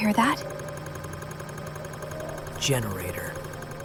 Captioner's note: generator humming